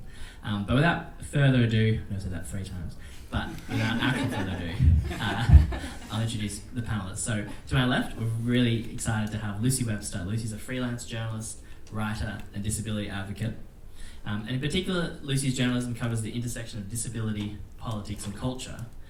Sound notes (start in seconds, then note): 3.3 crowd laughs